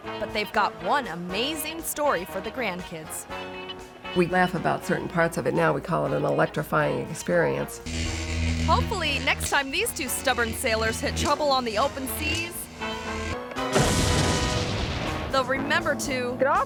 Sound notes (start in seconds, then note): 12.8 suspenseful music; 13.6 boat explodes